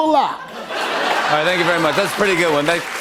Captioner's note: laughter and applause